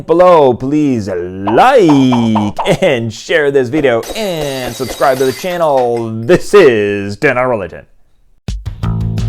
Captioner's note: glass breaking